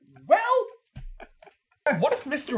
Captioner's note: chuckles